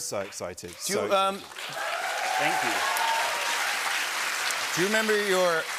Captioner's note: cheers and applause